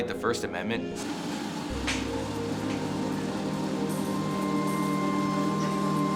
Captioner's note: treadmill whirring over dramatic electronic music